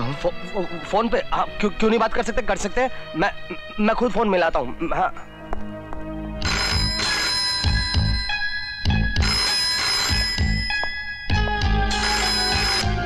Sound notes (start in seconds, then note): 6.4 phone ringing; 11.7 phone ringing